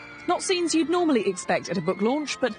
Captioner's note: people screaming